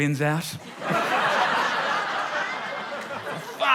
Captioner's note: laughter